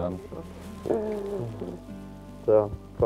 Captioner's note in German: Wohlige Laute